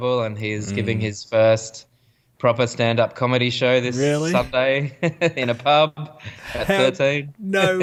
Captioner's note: laughs